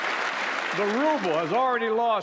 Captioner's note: applause